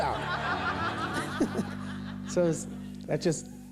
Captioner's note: laughter